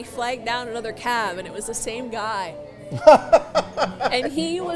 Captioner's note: Santa laughing